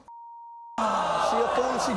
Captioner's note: beep; crowd gasping